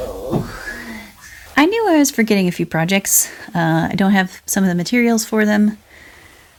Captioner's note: exasperated sigh